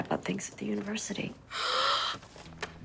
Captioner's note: gasps